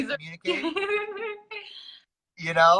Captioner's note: laughs